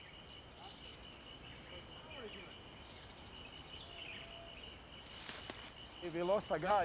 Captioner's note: birds chirping; people chattering